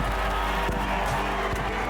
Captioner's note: crowd cheering